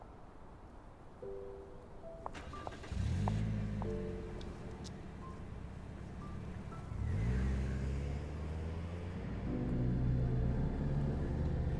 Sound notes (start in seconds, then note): 3.1 car engine starts; 9.5 ominous drone